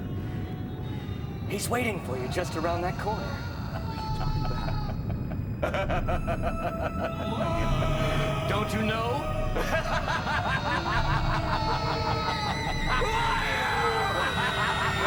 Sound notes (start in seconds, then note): 5.6 laughing; 9.5 laughing